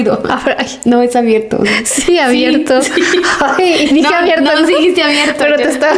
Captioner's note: laughs